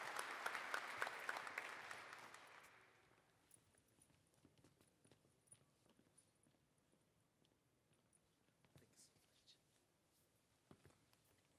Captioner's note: applause